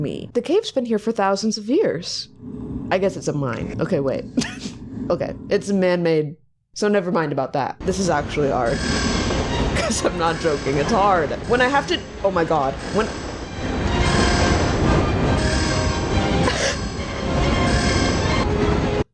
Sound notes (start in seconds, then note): 4.4 laughs; 9.6 laughs; 15.9 suspenseful music